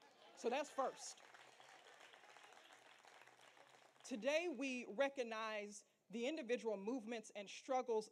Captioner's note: applause